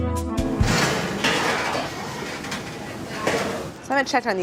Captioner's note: steel doors clanging